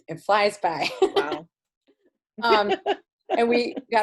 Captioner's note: laughs